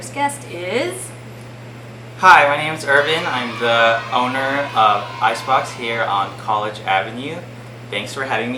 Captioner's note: sound clip: crowd of kids shouting "Yay!"